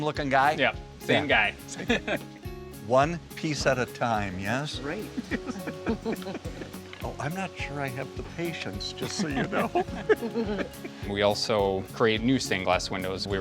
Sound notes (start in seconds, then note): 1.6 laughing; 5.0 both laughing